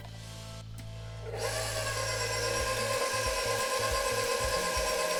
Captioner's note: mixer whirring